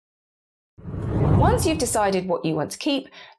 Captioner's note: graphic whooshes